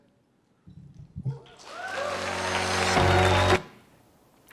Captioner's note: applause